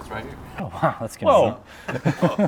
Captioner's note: laughing